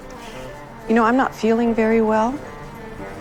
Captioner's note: voiceover